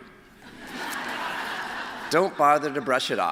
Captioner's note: laughter